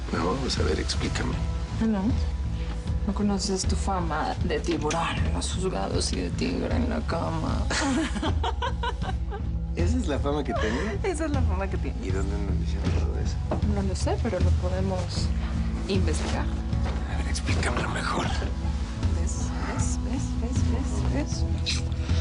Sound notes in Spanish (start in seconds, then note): 7.7 Risas